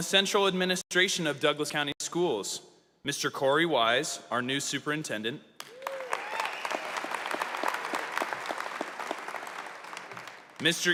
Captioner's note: applause